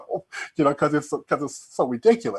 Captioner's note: chuckling